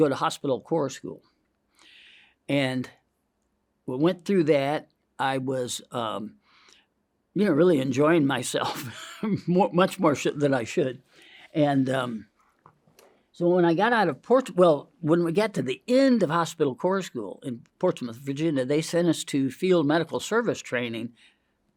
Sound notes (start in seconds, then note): 8.7 laughs